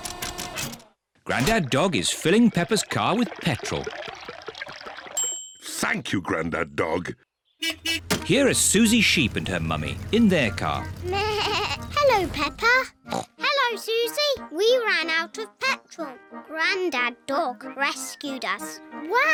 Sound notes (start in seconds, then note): 5.2 bell dings; 7.6 horn beeps; 11.6 bleats; 13.0 snorts